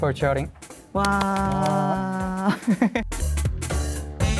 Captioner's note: laughs